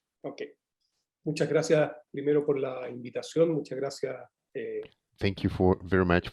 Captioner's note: speaks in foreign language